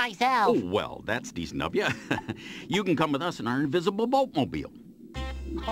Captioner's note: chuckles